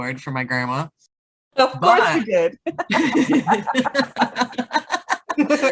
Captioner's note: laughs; both laughing